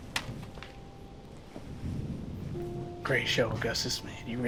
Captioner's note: melancholic piano music; thundering